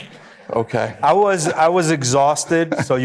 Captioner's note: audience chuckling